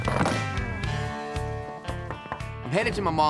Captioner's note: knocking